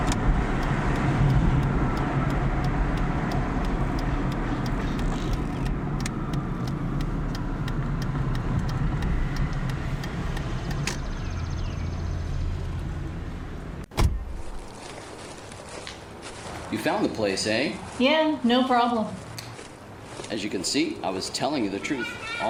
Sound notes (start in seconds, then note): 0.1 turn signal clicking; 13.9 car door bangs; 14.2 footsteps crunching